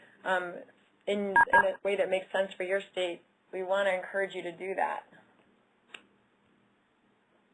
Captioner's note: audio interference